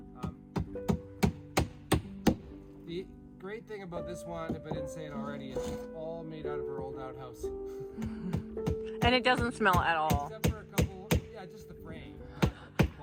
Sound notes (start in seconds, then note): 10.6 hammering